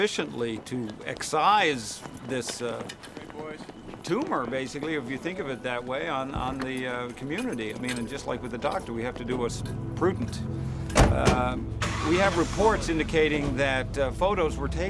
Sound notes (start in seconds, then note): none